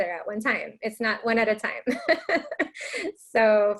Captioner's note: laughs